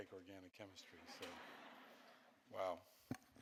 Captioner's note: audience laughing